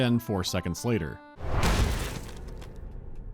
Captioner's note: whack